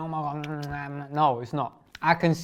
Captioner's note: lips smacking